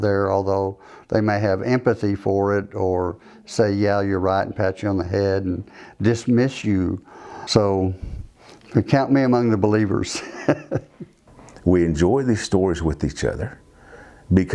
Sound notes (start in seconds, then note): 10.1 laughs